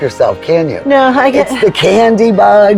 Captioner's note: chuckles